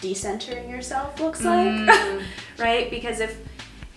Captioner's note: chuckles